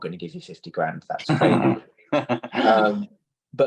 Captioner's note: laughter